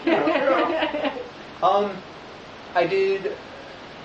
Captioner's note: laughter